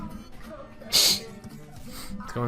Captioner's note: has sniffles